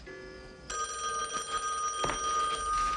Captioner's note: telephone rings